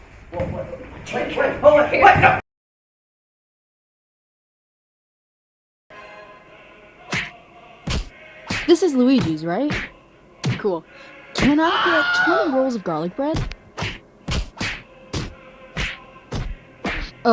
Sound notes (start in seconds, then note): 7.8 punching; 11.4 screaming; 14.2 punching